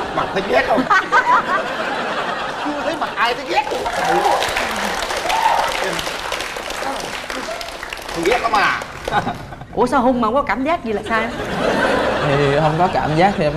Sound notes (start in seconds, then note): 0.0 laughter; 3.6 applause